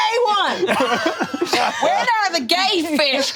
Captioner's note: all laughing